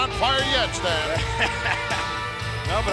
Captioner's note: chuckling